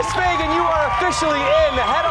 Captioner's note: cheers and applause